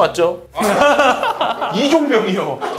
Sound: pffft

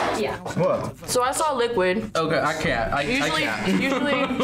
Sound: laughs

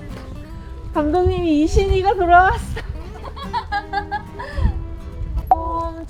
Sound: laughs

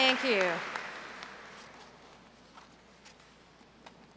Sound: applause

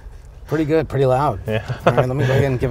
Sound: laughs

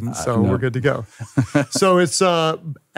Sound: laughs

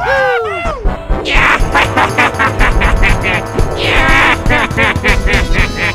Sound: laughs

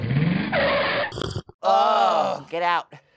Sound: tires squealing

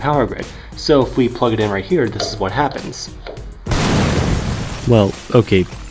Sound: explosion

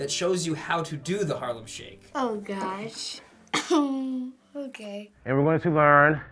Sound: whimpers

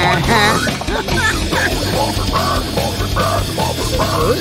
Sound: laughter

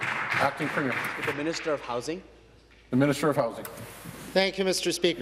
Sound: applause

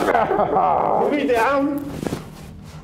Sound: Bob laughs

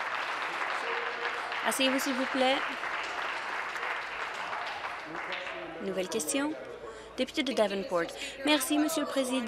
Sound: applause

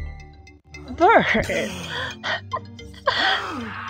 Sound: laughs

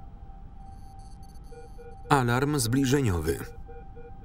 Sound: device beeping

